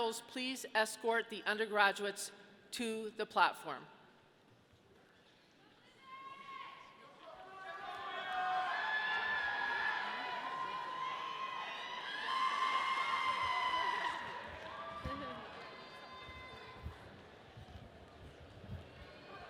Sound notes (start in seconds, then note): 6.3 audience shouting; 9.1 audience cheering